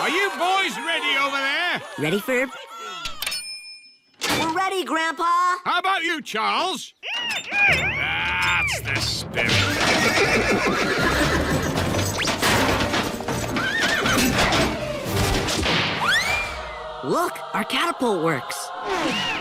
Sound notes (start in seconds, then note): 7.1 grunts; 9.6 horse neighs; 19.0 muffled screaming